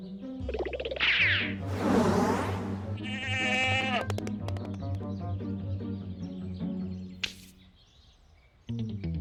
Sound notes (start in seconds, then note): 3.0 bleating